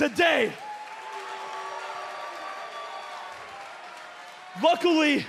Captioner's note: cheers and applause